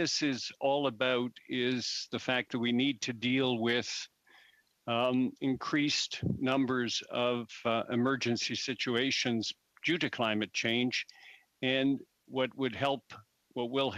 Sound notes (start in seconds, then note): 3.0 speaking French